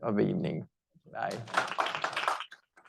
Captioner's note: audience applauding